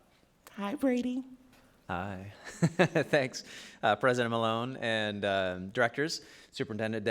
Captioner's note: laughs